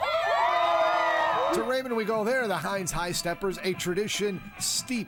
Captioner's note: cheering